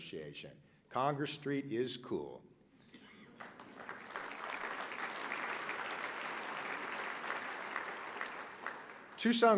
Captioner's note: applause